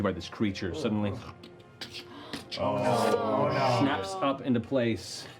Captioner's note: groaning